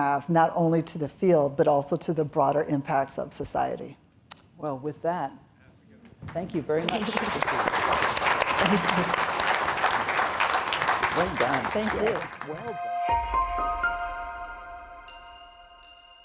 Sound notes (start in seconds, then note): 6.2 audience claps; 12.8 chiming music